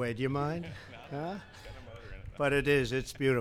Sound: laughter

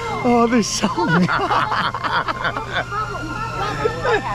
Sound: all laughing

